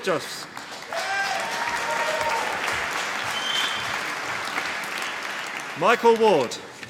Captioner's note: applause